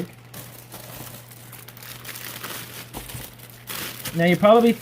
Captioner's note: crinkling paper